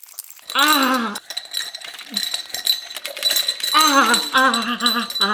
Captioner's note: metal clanging